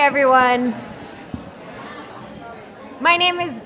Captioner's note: crowd conversing in background